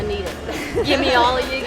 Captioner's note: laughing